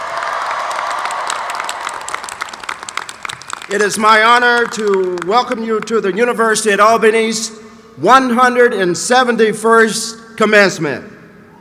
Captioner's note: cheers